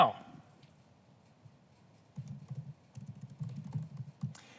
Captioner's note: typing sound